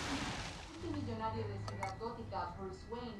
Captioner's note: faint Spanish voices on radio